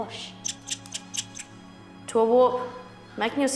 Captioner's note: squeaks